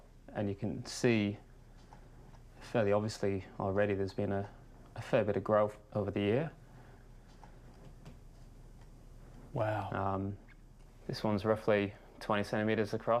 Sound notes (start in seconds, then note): none